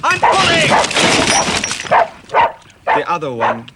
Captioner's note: montmorency barking